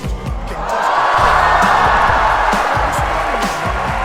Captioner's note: applause